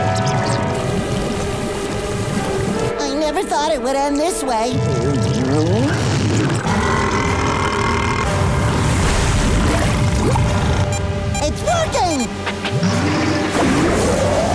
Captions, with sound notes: I never thought it would end this way. [burping] It's working!